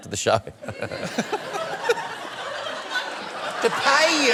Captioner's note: laughter